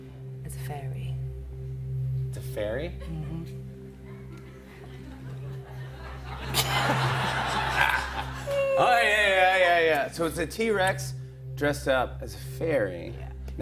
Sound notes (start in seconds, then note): 4.0 laughter